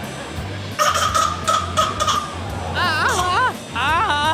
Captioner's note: baby cries